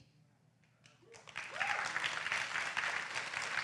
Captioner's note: applause